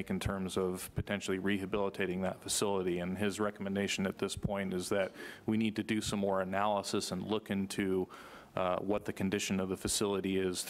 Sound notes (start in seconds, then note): none